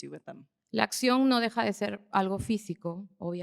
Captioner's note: speaking spanish